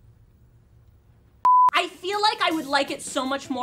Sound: beep

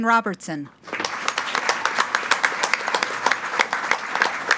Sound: group applauding

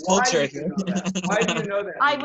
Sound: laughter

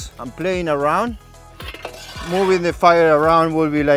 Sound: shovel scrapes

